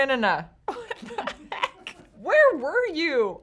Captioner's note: laughing